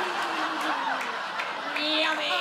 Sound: audience laughs

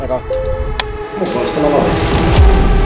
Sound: slate closes

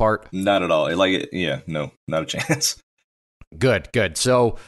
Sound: laughs

